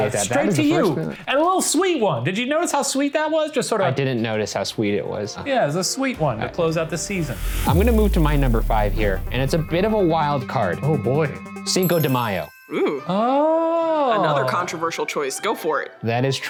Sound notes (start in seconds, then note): 12.5 bell ringing